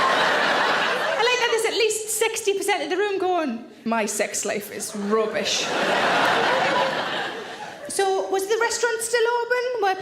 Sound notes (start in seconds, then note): 0.0 audience laughing; 5.4 audience laughing